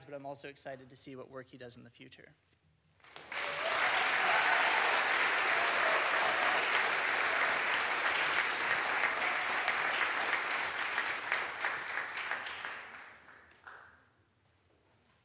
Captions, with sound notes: but I'm also excited to see what work he does in the future. (audience applauds) (audience cheers)